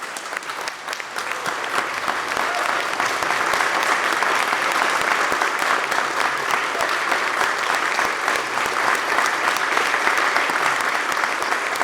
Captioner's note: applause